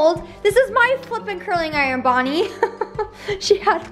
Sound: laughs

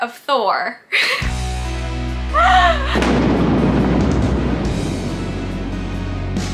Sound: thunder banging; upbeat music

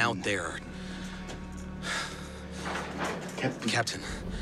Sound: sighs

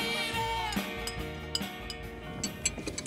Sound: spoon scraping plate

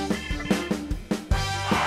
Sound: skidding

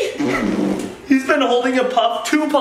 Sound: blows raspberry

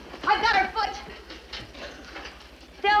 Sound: bed rattles

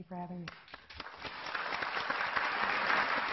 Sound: clapping

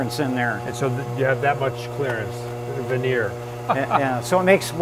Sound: laughs

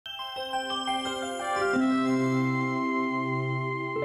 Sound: soft chimes

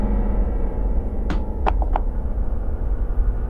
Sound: knife drops onto the floor

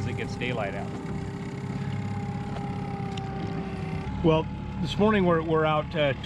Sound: boat engine idling

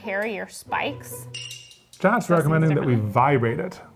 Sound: chime rings

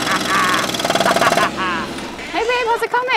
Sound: laughing; engine revving

